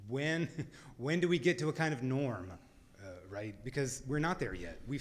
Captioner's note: laughs